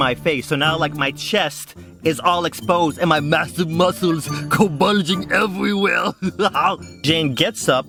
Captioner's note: Arnold Schwarzenegger voice